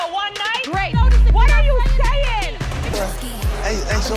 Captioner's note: people speaking indistinct